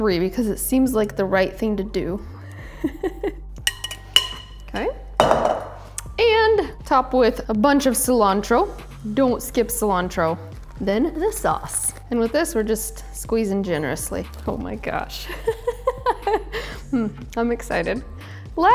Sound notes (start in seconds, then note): 16.0 laughs